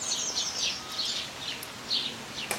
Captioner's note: cheeping